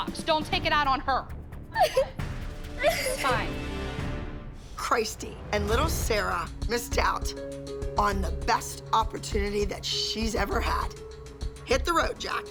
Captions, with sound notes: Don't take it out on her. [crying] Christy and little Sarah missed out on the best opportunity that she's ever had. Hit the road, Jack.